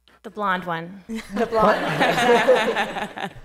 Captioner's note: laughter